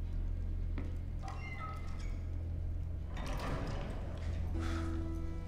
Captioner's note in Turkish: Kapı kapanma sesi